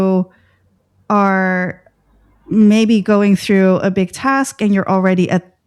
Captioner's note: breath